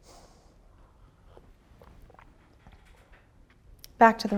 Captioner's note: Dr. Tawny slurps and swallows